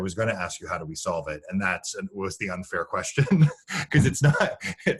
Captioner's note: laughing